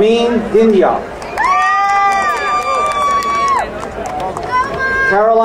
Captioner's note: crowd cheering